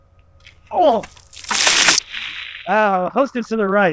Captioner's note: water sloshing